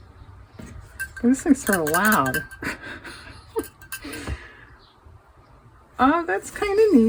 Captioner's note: laughs